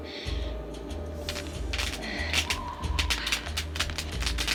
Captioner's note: sparking